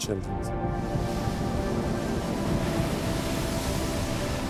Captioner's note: waves crash